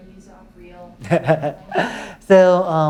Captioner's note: laughs